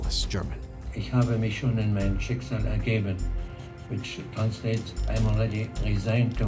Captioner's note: speaking German